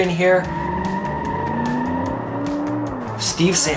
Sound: tires squeal

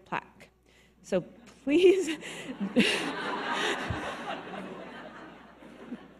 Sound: audience laughing

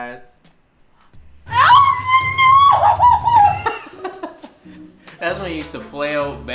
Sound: laughs

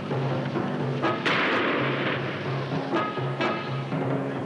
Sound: gun firing

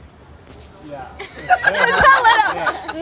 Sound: all laughing

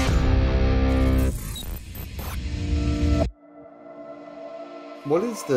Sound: mechanical trilling

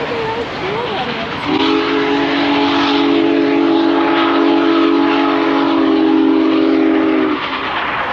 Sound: train whistle blows

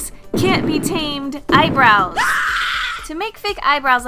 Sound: scream

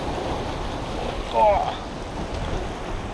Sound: grunts

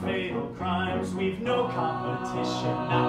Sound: others vocalize in background

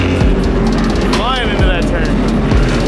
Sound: engine revving

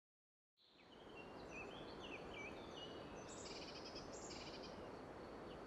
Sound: sounds of a redwood forest. birds chirping

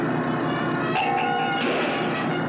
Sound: clang!

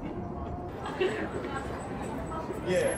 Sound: crowd chattering

